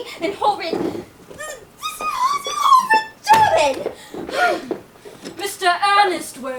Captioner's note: squeals